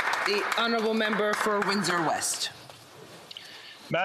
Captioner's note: some Applause